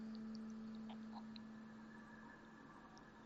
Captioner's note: none